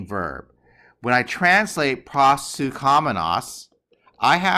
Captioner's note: speaking greek